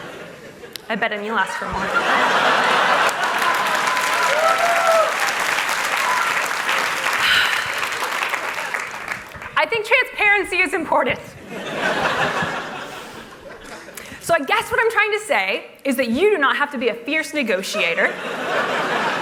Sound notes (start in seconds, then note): 9.2 applause; 17.8 laughter